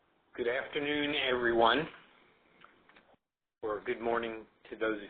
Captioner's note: voiceover